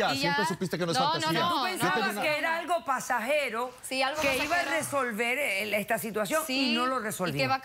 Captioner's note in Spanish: Comentarios al unísono